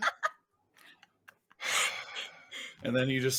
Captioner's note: laughing